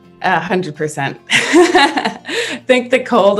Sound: laughs

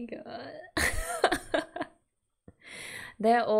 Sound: laughs

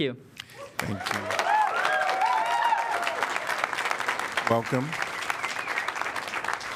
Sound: applause

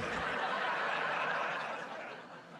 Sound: laughter

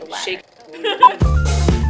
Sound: laughs

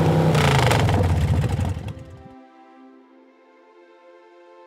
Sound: motorcycle engine cuts off

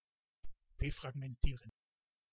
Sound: fast Pronunciation

